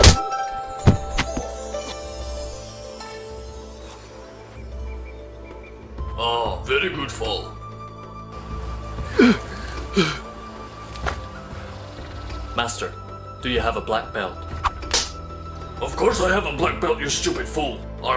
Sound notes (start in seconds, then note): 0.0 punch thudding; 9.0 Night groaning